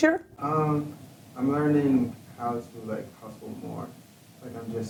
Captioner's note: voiceover